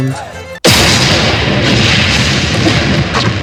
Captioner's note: explosion